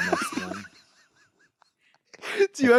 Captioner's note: Anthony laughs